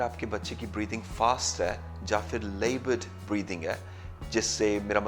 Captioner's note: or laboured breathing